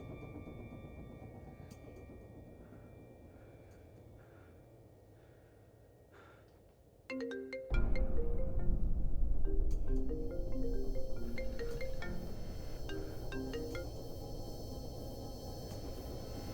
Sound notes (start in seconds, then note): 0.1 music fades; 7.0 phone chimes; 7.6 dramatic music